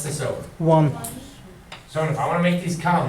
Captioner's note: voiceover